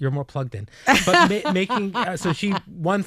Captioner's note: laughing